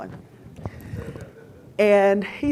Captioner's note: audience laughing